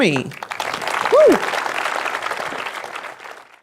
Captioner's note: audience applause